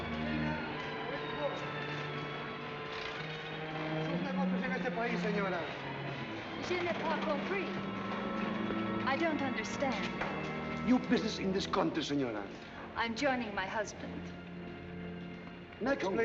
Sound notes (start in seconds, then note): 4.0 official speaking spanish